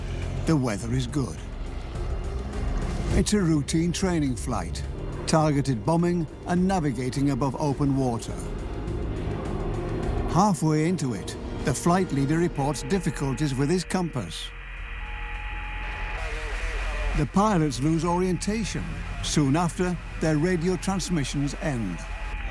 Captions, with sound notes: The weather is good. It's a routine training flight. Targeted bombing and navigating above open water. Halfway into it, the flight leader reports difficulties with his compass. (radio crackles) The pilots lose orientation. Soon after, their radio transmissions end.